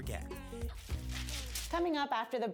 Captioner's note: paper shreds